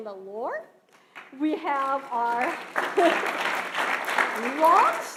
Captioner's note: audience applauding